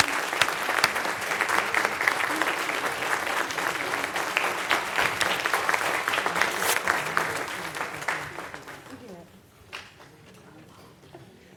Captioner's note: applause; cheering